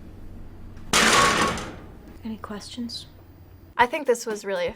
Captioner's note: metal clatters